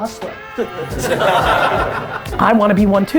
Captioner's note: group laughter